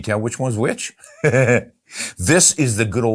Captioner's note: laughs